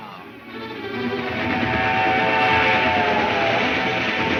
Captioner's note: train horn blares